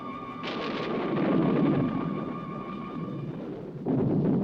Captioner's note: thunder crashing